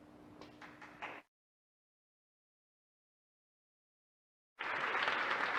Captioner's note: audience applauding